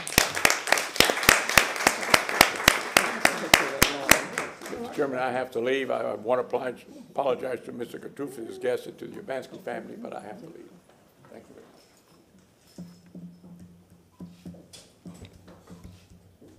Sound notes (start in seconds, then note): 5.0 applause